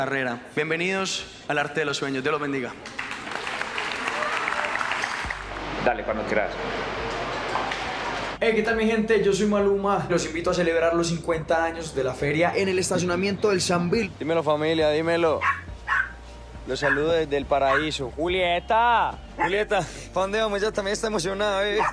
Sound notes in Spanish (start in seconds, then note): 2.7 aplausos; 15.8 perro ladrando